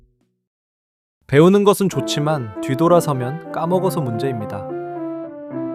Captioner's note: speaking in foreign language